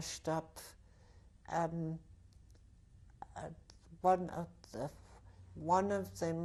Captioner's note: pauses for 3 seconds